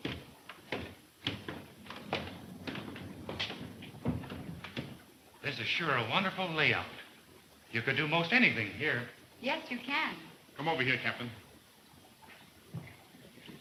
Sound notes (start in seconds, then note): none